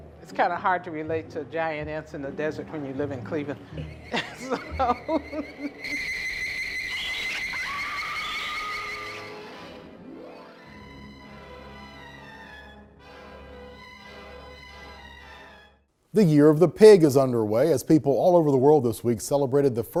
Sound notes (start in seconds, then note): 3.6 laughs; 5.6 buzzing; 5.8 screaming; 8.5 sci-fi music